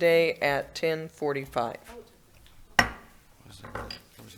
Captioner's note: gavel hit